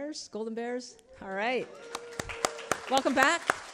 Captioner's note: attendees cheering; clapping